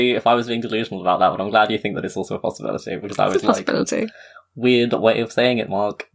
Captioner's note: laughs